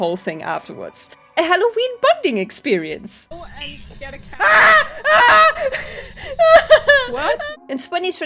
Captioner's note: screams